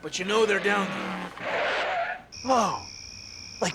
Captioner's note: tires screech